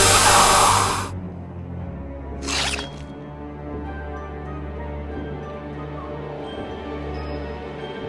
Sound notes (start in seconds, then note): 0.7 solemn music; 2.4 flesh squelches